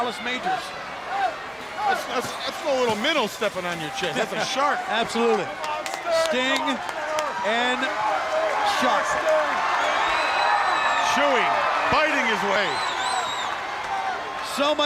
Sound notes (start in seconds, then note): 9.8 crowd cheering